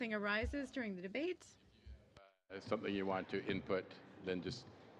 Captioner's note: speaking French